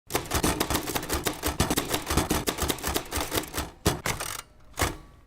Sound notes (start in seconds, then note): 0.1 typewriter clicking